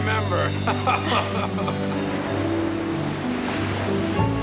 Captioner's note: laughing